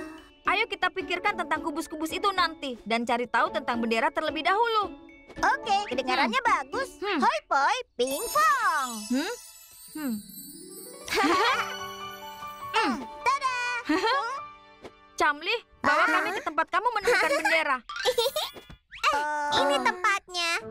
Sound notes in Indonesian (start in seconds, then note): 17.0 tertawa